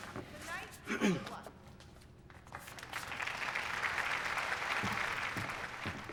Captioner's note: students clapping